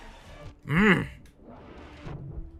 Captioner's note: growls